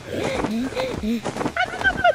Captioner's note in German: keuchend